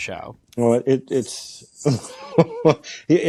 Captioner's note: laughs